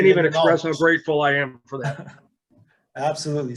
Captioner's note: laughs